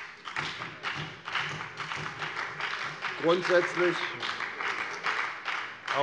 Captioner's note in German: Beifall bei der FDP und der SPD